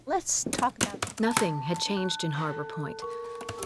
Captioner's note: typing